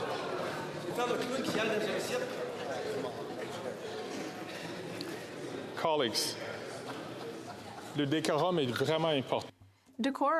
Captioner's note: chatter